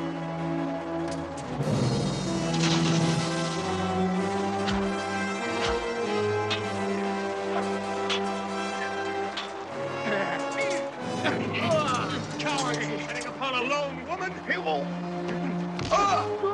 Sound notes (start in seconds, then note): 2.7 splashing; 7.4 tense orchestral music